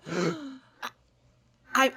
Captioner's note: parents gasp